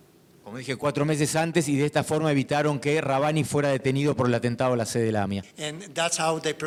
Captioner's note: speaking in foreign language